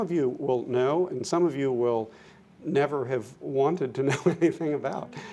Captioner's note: laughs